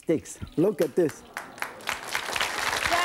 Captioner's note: audience clapping